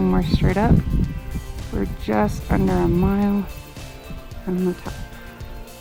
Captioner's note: wind noise